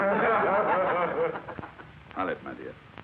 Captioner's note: class laughs